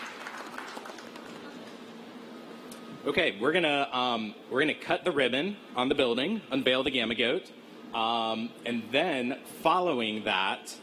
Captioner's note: applause